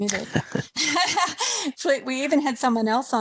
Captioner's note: laughter